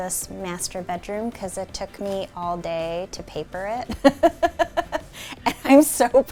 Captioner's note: laughs